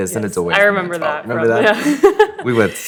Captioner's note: chuckles